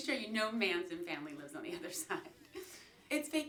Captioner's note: giggling